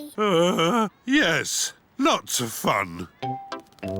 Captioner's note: groans